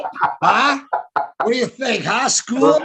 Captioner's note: laughing